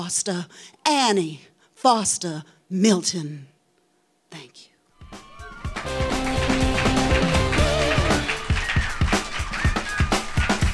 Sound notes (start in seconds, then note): 5.1 audience clapping; 7.4 instrumental music